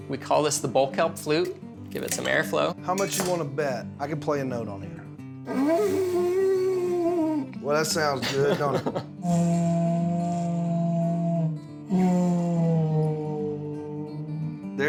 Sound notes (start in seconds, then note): 5.5 horn sound; 8.0 laughing; 9.3 horn sound